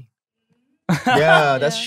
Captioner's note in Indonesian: tertawa